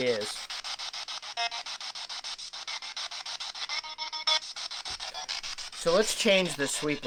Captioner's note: scanning